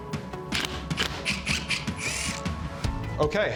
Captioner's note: drilling